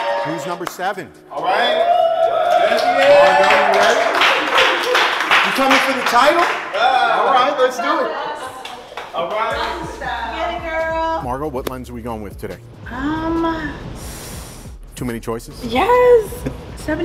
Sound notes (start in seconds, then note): 1.4 cheering